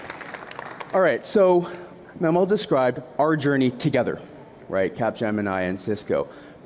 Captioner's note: applause